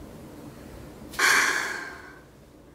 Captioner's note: sigh